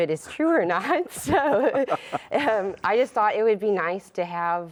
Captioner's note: laughs